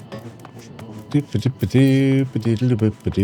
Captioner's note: humming